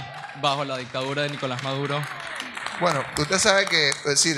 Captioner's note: audience applauds